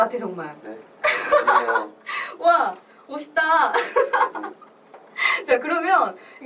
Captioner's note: laughs